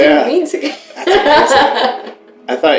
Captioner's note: laughter